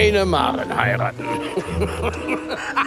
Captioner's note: lacht; laughs